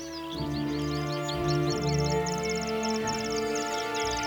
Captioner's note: bird tweeting